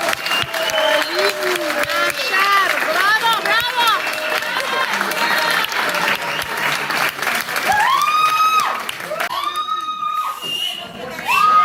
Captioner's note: applause